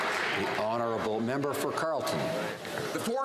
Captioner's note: some Applause